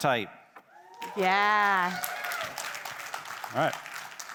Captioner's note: attendees cheering